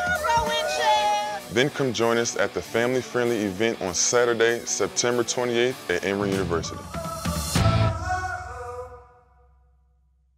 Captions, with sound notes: (group cheering) Then come join us at the family-friendly event on Saturday, September 28th at Emory University.